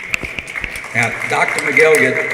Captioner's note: applause